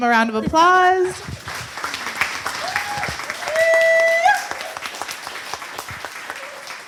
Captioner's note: audience cheers and applause